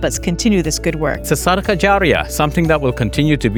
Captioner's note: speaks in Arabic